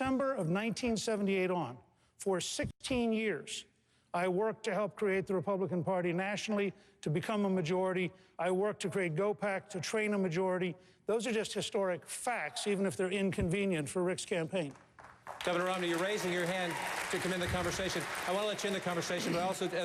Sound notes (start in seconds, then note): 14.7 applause